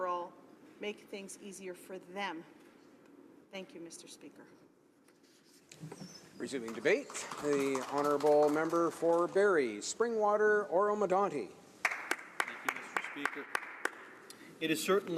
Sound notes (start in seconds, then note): 9.4 applause